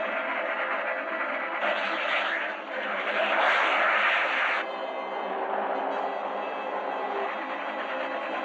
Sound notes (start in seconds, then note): 4.4 engine rumbling